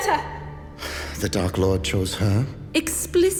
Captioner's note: sighs